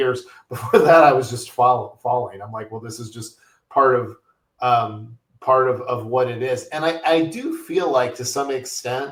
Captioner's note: chuckles